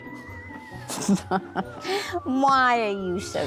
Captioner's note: laughter